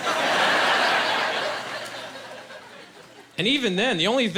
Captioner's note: laughing